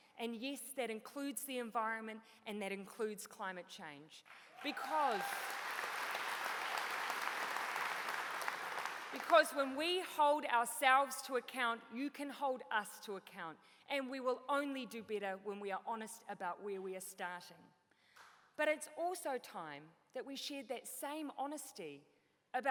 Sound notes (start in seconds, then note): 5.9 applause